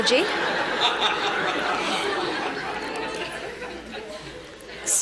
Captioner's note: laughter